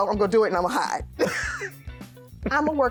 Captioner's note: laughs